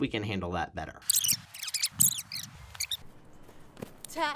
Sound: tape rewinding

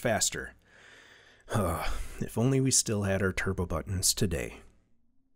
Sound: sigh

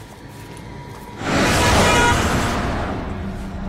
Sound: horn

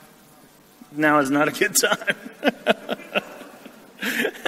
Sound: chuckles

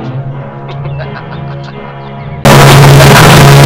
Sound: laughs evilly

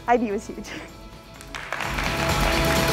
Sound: applause

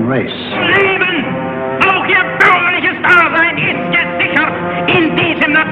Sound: Frank speaking in German

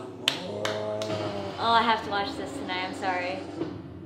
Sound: clapping

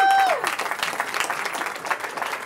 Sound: cheering

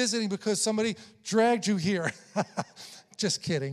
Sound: chuckles

